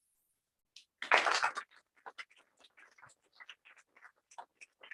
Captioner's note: applause